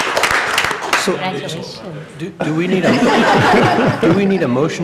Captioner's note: applause